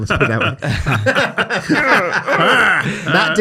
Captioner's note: everyone laughs